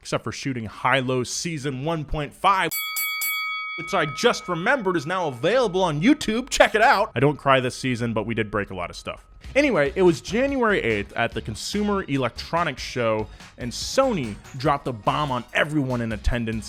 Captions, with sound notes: except for shooting HiLow season 1.5. (bell dinging) Which I just remembered is now available on YouTube, check it out. I don't cry this season, but we did break a lot of stuff. Anyway, it was January 8th at the Consumer Electronic Show and Sony dropped the bomb on everyone in attendance